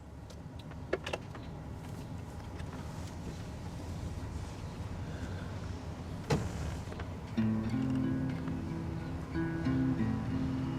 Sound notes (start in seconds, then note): 2.4 birds chirping; 7.2 somber guitar music